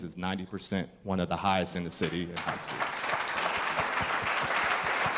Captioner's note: applause